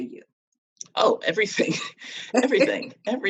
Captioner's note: chuckles